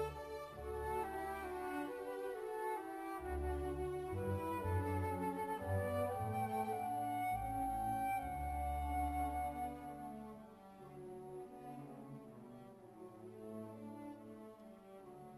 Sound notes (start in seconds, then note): none